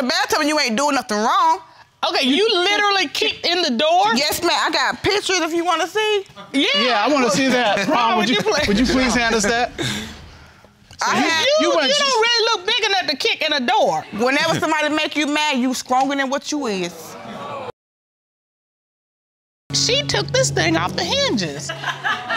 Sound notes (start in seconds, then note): 17.5 audience exclaiming; 21.5 laughter